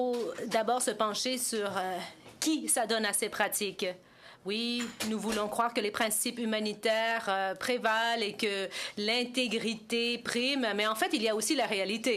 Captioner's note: speaking French